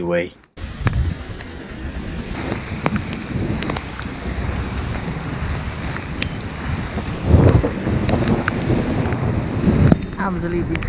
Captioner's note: thunderstorm sounds